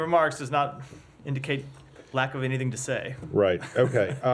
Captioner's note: laughter